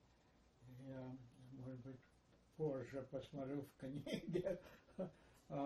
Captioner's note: laughing